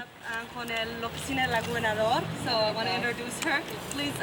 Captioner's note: speaking Spanish